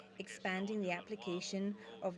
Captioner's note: speaking French